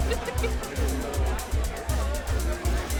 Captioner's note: all laughing; upbeat music